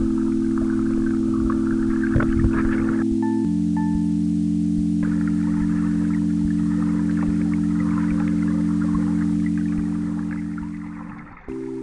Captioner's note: wind blowing